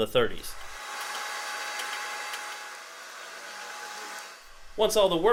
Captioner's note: machine whirring